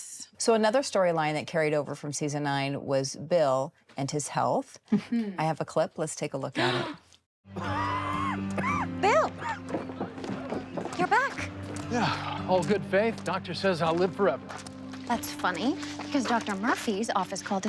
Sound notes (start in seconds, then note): 6.5 gasping; 7.8 coughing